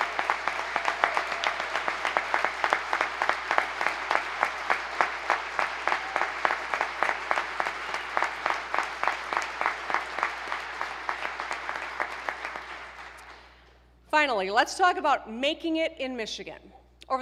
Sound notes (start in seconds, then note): 2.1 applause